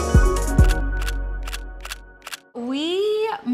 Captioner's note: camera clicks